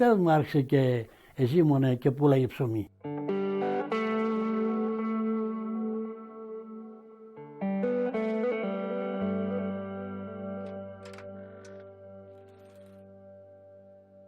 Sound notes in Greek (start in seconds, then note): 3.2 απαλή μουσική; 11.0 ήχος παραθύρου που ανοίγει